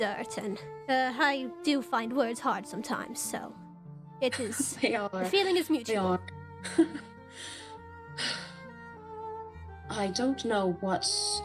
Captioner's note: sigh